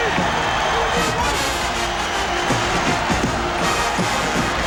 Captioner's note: cheers